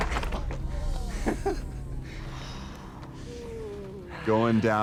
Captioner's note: laughs